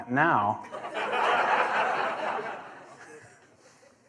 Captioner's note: laughter